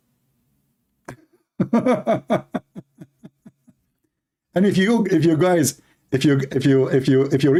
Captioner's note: Ketawa